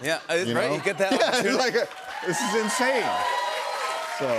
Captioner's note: cheers and applause